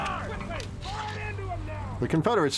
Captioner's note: soldiers shouting